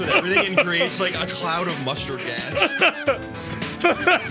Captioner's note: laughs